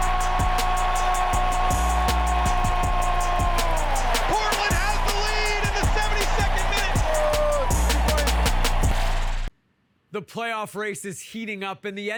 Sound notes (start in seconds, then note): 0.3 crowd cheering; 2.0 energetic electronic music; 7.6 crowd cheering drowns out player